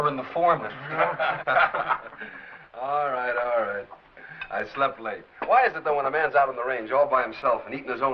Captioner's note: laughter